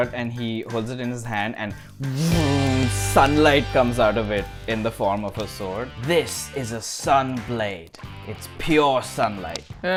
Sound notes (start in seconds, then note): 2.0 voom!